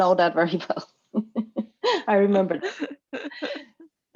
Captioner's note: chuckles